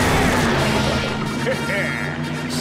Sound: chuckles

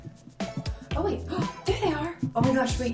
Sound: gasps

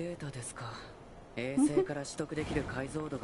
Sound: laughs

